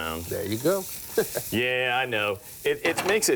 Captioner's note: chuckles